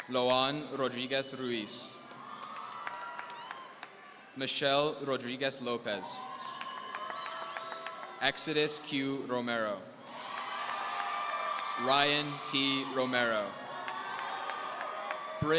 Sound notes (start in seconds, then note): 10.0 audience cheering